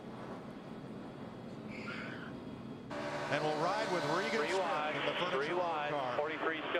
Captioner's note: radio